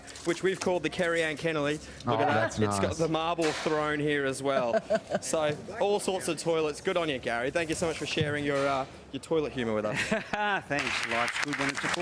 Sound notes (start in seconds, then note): 4.4 laughing; 10.1 laughing